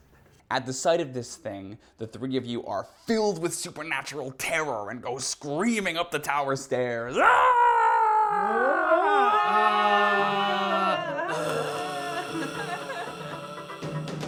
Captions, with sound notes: At the sight of this thing, the three of you are filled with supernatural terror and go screaming up the tower stairs. (screams) (screams) (general screaming)